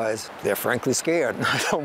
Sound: laughs

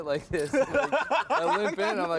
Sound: laughter

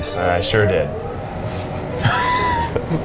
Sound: oven whirring; laughing

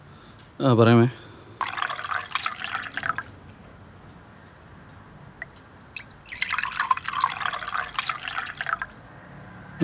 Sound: tea Pouring Sound

